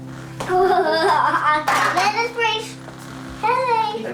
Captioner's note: baby talking